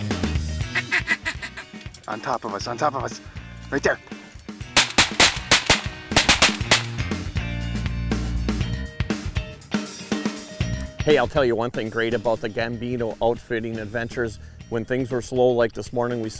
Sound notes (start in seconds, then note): 0.6 duck quacking; 4.7 guns firing